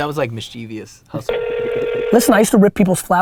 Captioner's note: phone ringing